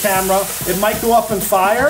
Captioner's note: Cognac sizzles